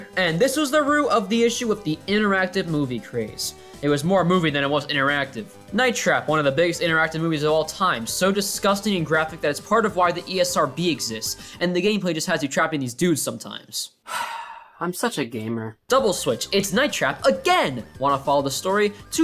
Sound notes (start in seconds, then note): 14.0 sigh